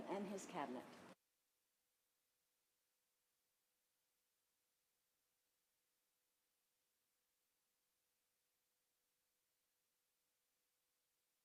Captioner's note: silence